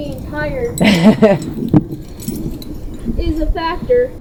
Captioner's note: laughs